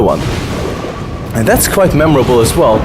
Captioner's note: lightning striking; rain pouring; waves crashing